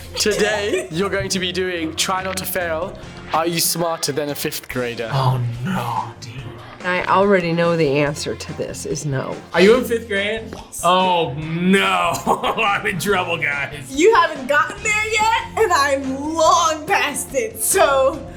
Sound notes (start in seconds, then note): 11.7 laughs